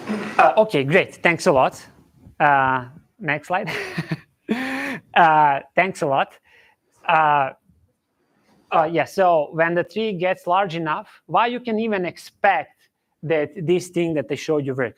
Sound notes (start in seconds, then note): 3.6 chuckles